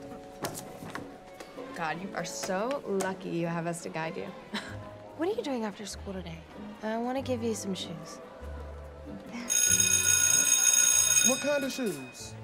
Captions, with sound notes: God, you are so lucky you have us to guide you. What are you doing after school today? I want to give you some shoes. [chuckles] [school bell rings] What kind of shoes?